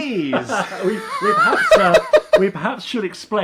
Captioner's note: laughing